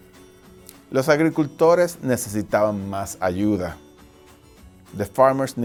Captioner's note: speaking foreign language